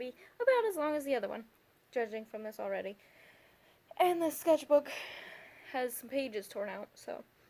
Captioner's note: exasperated sigh